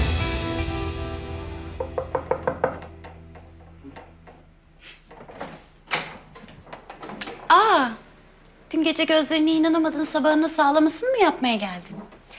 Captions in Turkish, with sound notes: (Kapı tıklatma sesi) (Kapı açılma sesi) Aa! Dün gece gözlerine inanamadın, sabahına sağlamasını mı yapmaya geldin?